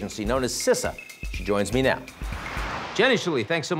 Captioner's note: air whooshing